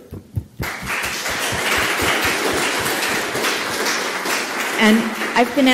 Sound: audience applauding

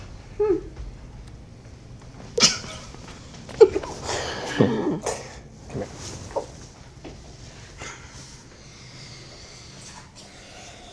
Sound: laughter

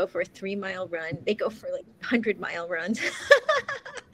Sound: laughs

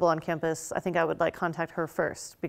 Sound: none

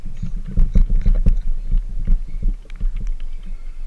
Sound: boat sounds

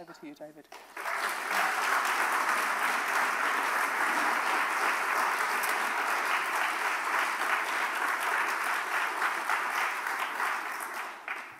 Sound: audience applauses

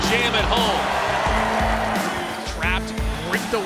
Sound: crowd cheers

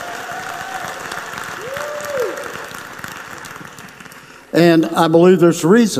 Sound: clapping

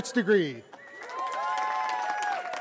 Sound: cheering

